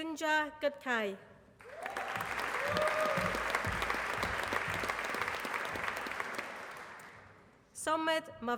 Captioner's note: applause